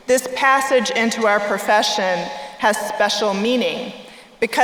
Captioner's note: none